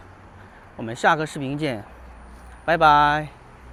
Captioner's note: 英语; 英语